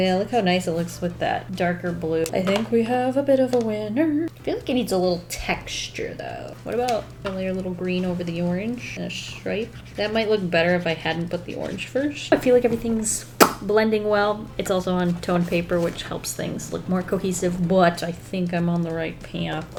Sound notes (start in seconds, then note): 13.4 mouth pop